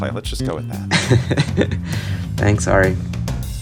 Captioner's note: laughter